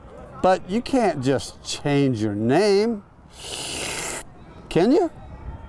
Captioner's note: slurps